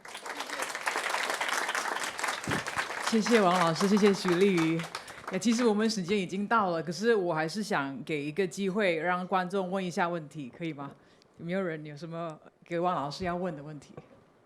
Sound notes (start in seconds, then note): 0.0 applause; 3.5 Mandarin